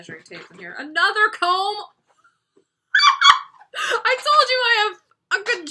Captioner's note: laughs